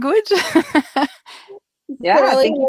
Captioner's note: laughing